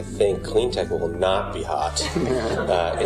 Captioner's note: laughter